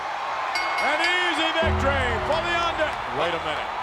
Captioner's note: applause